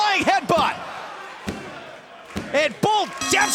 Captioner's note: bell ringing